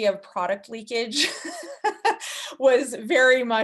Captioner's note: laughing